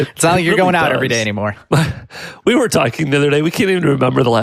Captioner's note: chuckles